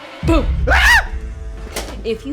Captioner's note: scream